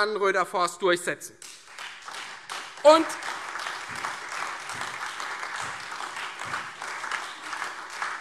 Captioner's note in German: Lebhafter Beifall Freie Demokraten - Vereinzelter Beifall CDU und AfD